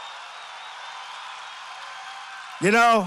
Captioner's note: applause